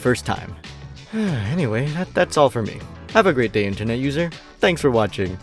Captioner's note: sigh